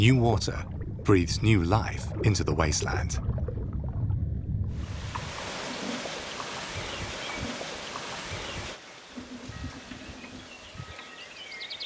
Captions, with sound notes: New water breeds new life into the wasteland. (birds singing)